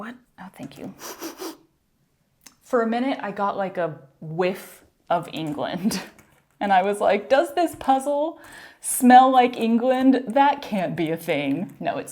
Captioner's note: intense sniffing